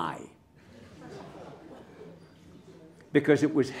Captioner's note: laughter